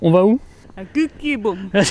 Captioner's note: funny accent